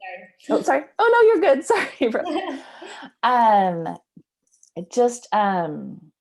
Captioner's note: laughs